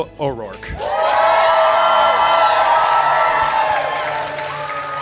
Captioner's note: audience cheering